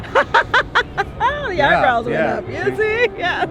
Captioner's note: laughs